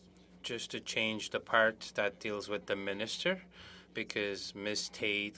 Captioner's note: speaking French